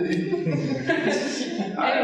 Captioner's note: audience laughing